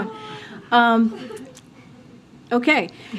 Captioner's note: laughter